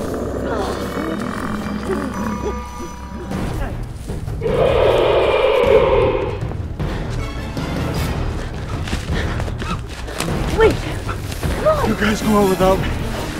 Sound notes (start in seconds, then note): 2.0 magic sword sound; 4.4 roar